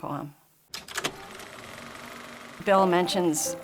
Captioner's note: projector whirring